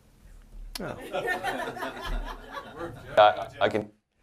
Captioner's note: people laughing